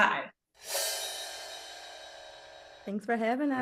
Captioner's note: graphic whooshing